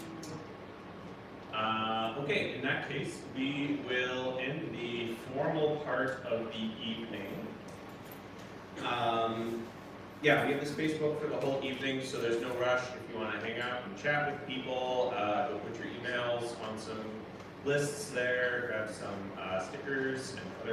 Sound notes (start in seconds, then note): none